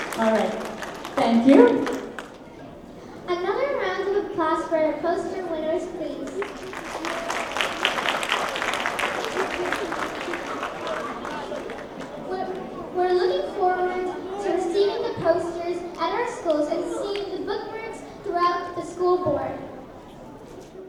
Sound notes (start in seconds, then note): 6.2 applause